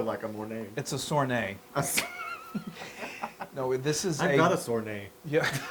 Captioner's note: laugh